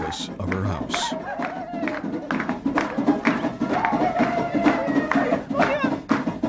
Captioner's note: drums banging; women shouting